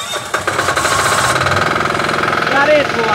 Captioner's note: engine rumbling